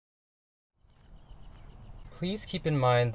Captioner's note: birds chirping